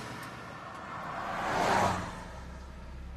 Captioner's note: car passing by revving